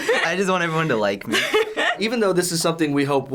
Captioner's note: laughs